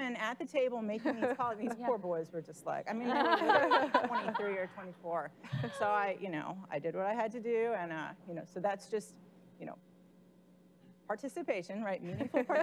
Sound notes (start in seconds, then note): 3.2 laughing